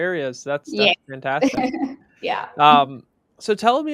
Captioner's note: laughs